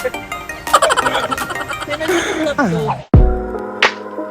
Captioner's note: laughing SFX; laughing